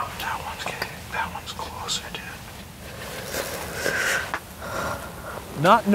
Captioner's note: whispering